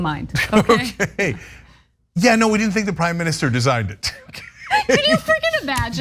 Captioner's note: laugh